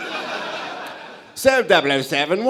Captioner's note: british accent